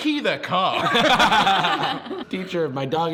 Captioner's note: laughs